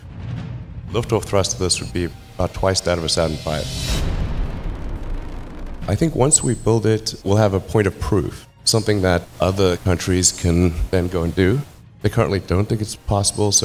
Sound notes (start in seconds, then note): 4.1 rocket launching